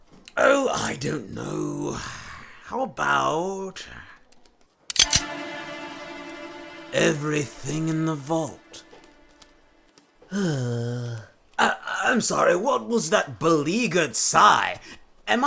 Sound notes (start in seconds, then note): 4.9 gun cock; 10.2 beleaguered sigh